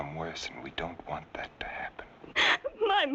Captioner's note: sobs